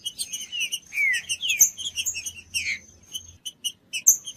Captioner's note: trinca ferro cantando